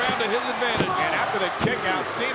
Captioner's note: hands thudding